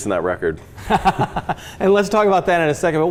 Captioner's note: both laugh